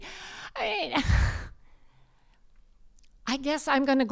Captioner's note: scoffs